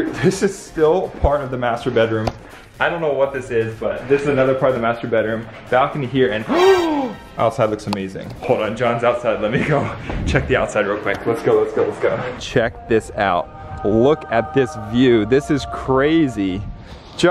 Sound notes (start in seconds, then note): 6.5 inhales sharply